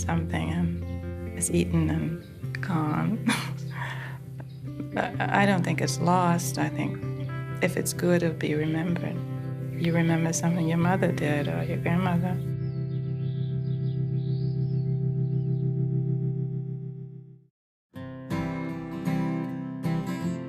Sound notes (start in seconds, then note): 3.2 laughs; 12.9 birds chirping; 18.0 country music